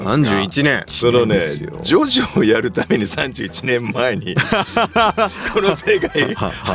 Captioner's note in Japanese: 笑い